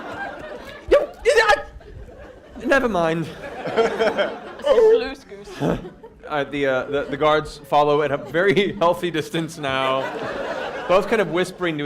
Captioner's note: frustrated noise